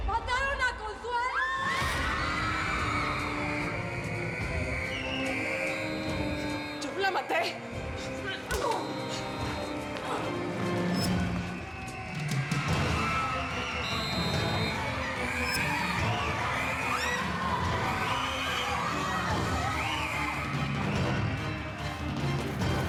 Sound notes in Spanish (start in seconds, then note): 1.3 griterío; 5.8 suena la sirena de alarma; 12.5 puñetazo; 14.0 sigue sonando la sirena; 18.3 griterío; 19.4 silbato